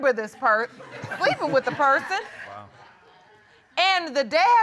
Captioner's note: chuckles